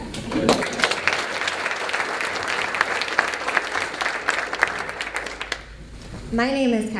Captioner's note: applause